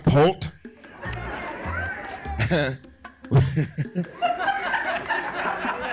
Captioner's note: laughing